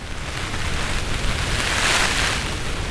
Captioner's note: wind & rain